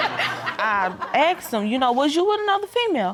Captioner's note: audience laughing